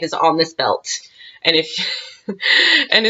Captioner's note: laughs